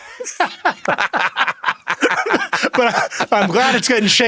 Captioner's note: both laugh